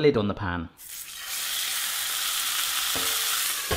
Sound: sizzling

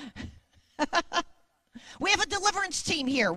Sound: laughs

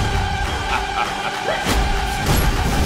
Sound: laughs

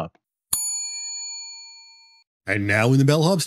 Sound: bell dings

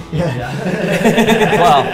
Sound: laughter

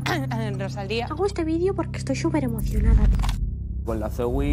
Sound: clears throat; impersonating

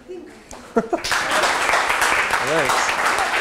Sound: applause

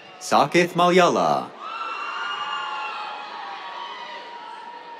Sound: cheers

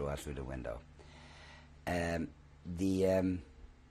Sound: pauses for 3 seconds

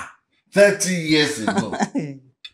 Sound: Mrs Badru laughs

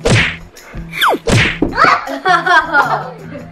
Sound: laughing

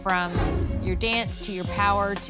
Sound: whoosh

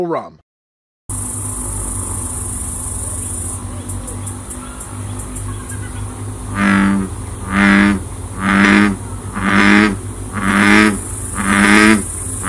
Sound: bullfrog call

